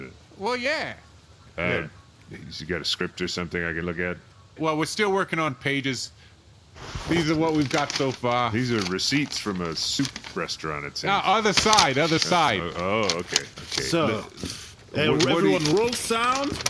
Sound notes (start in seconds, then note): 6.7 paper crackling; 11.2 flipping through papers